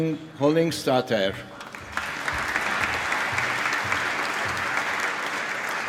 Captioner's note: applause